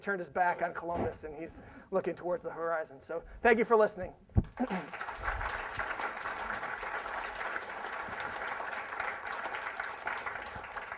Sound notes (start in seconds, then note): 4.5 applause